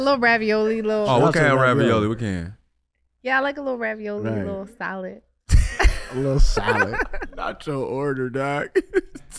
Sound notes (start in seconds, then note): 5.5 Iman laughing